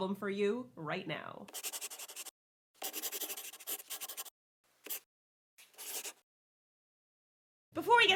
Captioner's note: the sound of a pen scratching. LOGO